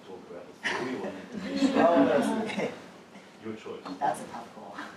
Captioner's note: laugh